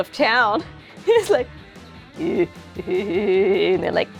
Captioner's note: EVIl LAUGH